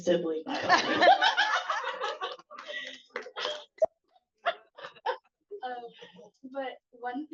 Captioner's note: laughs